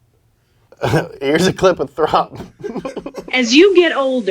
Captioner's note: chuckles